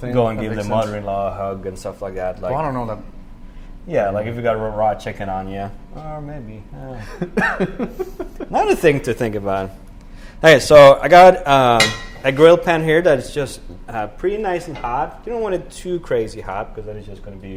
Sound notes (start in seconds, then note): 6.8 laughs